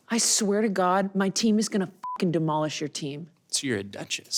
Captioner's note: beep